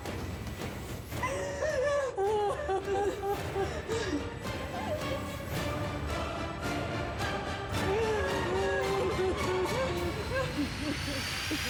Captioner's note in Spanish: sollozos